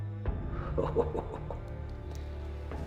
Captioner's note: chuckles